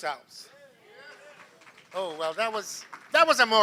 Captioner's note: applause